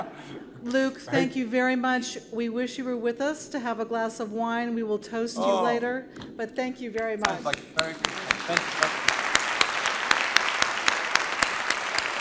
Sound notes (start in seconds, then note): 7.2 applause